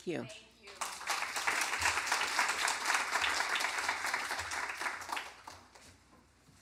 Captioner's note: applause